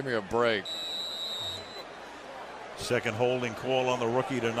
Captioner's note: whistle